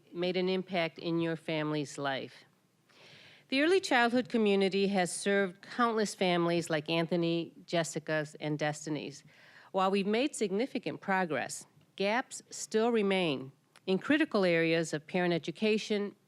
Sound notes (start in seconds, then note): none